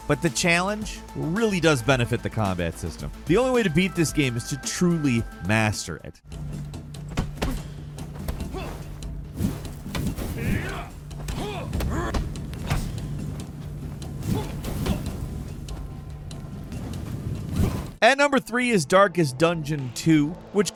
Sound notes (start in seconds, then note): 6.7 blows thudding; 7.0 percussive upbeat music; 10.1 fighters grunting